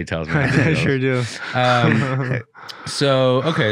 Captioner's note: laughing